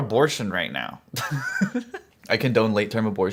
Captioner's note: chuckles